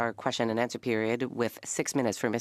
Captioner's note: speaking French